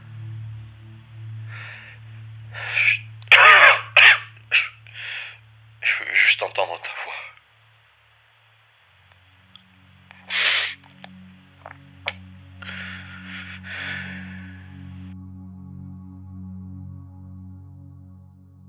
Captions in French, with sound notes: Je - *Quinte de toux* Je veux juste entendre ta voix...